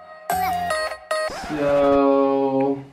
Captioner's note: record scratch